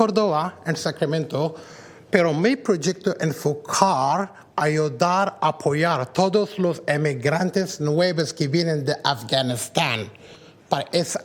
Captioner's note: speaking spanish